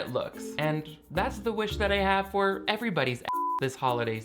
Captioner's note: beep